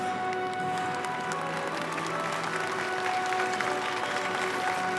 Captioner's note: audience applauding